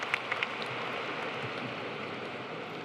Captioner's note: applause